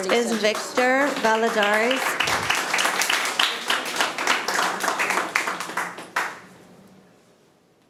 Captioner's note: audience applauding